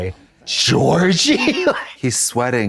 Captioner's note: blonde Women in unison